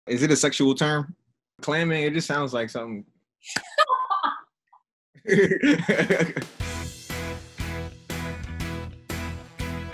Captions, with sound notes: - Is it a sexual term? Clamming, it just sounds like something. (laughter) (whimsical music)